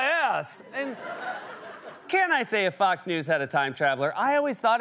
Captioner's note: laughter